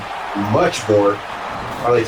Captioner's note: crowd Noises